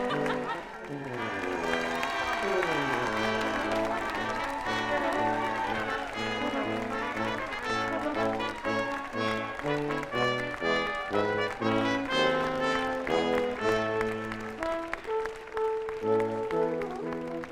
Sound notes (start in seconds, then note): 1.0 audience applauding; 1.0 upbeat processional music